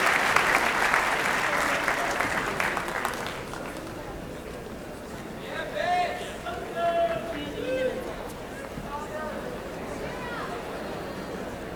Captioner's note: applause